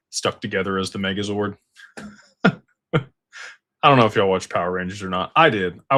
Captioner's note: laughter